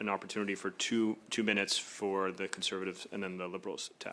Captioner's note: speaking French